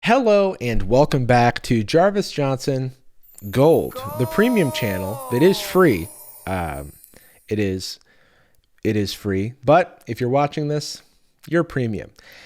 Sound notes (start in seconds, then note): 4.1 disembodied voice